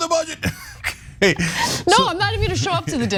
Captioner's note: laugh